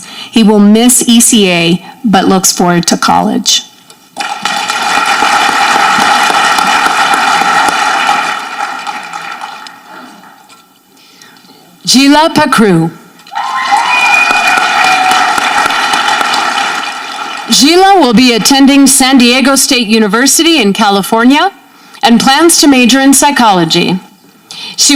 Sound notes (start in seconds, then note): 4.2 audience clapping; 13.3 audience cheering